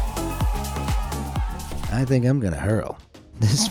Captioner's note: people cheering